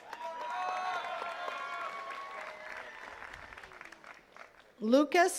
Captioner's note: attendees cheering and clapping